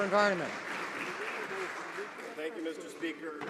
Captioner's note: some Applause